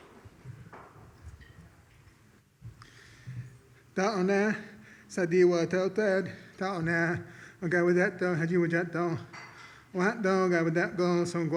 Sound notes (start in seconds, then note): 4.2 speaks an Iroquois blessing